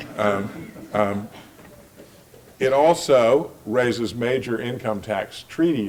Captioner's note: laugh